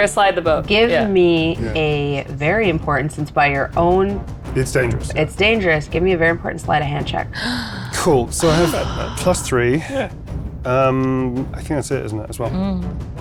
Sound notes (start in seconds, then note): 7.3 gasping